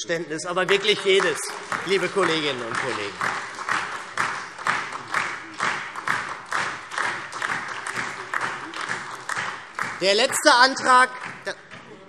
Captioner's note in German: Beifall SPD und DIE LINKE